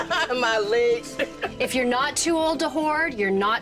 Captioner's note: chuckles